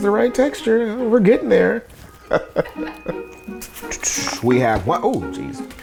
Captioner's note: chuckles